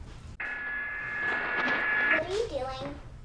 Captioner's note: buzzing